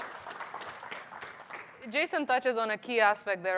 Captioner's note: applause